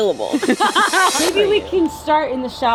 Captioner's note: both laughing